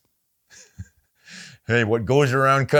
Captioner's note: laughs